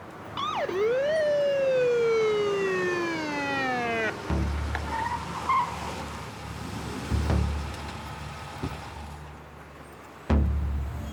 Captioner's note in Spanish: Sirena de patrulla